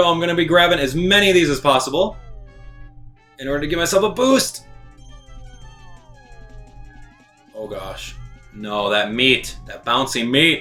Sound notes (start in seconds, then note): 5.8 gaming sounds